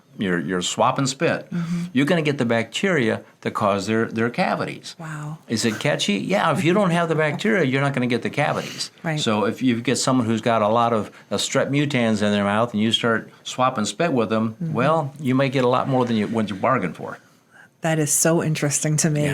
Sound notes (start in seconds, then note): 6.2 chuckles